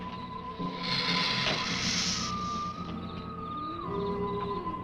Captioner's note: lizard hissing